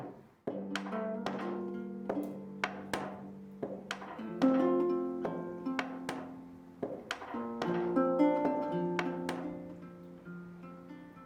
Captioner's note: hammer rhythm starts up again